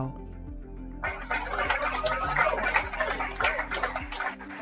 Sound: applause

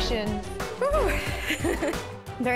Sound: chuckles

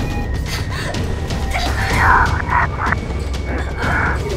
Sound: gasping; whispering

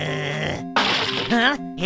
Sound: crack!

